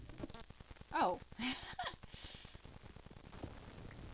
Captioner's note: laughs